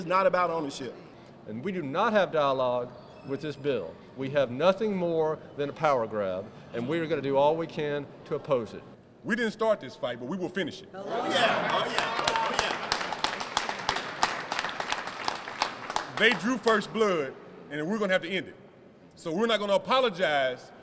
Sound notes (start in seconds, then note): 11.0 shouts; 11.3 applause